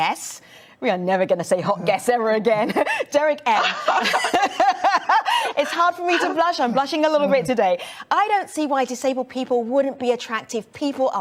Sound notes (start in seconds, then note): 3.5 laughs